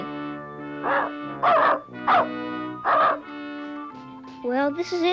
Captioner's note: Arrow barking